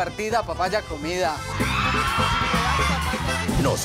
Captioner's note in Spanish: Gritos